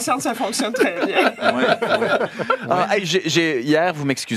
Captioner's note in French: rires